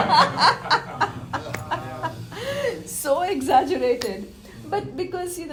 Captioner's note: laughter